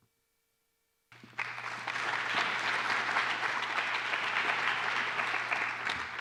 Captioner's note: applause